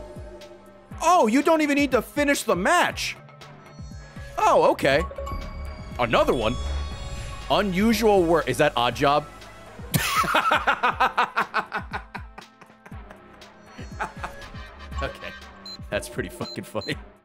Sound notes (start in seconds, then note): 10.0 laughs